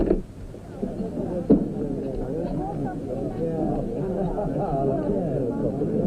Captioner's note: diners chattering